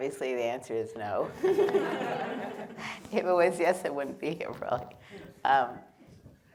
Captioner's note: laughter